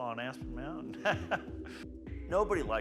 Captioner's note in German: lacht